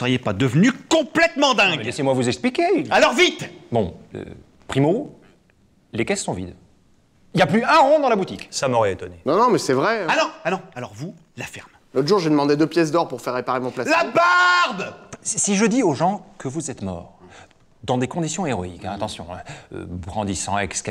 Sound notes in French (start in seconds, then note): 12.2 En hurlant